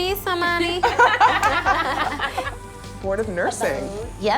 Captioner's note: laughing